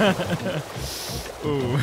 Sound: laughs

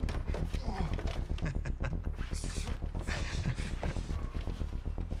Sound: Kemp chuckling

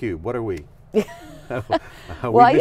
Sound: laughing

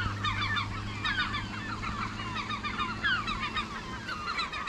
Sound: seagulls calling

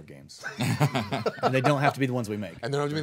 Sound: group laughing

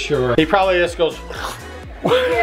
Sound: slurp

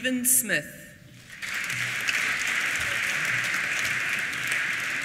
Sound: applause

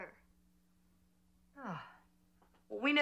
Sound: sighing

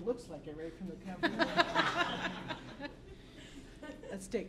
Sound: laughter

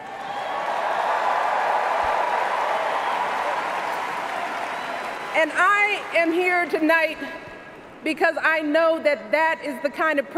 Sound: cheers, applause

